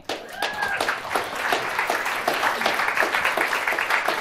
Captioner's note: applause